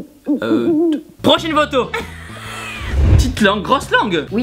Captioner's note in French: Rires